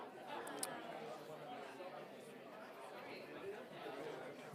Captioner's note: people chattering